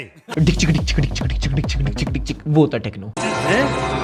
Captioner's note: mimics techno music